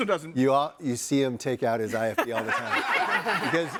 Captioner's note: all laughing